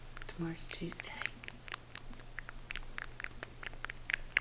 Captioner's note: lips smacking